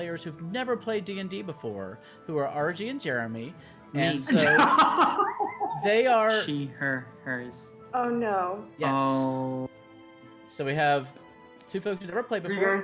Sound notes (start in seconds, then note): 4.1 laughs